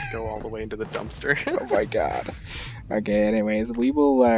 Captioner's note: both Laugh